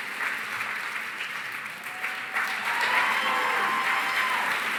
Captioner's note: cheering, applause